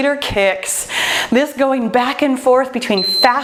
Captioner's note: timer beeps